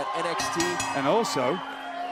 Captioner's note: bell ringing